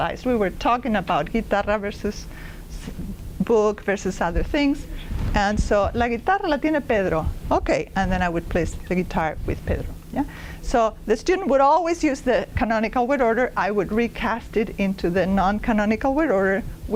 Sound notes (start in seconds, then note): 5.9 non-english speech